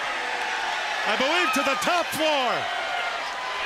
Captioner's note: crowd cheering